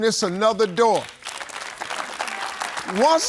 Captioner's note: audience clapping